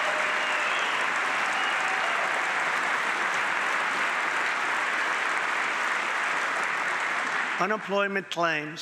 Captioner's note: applause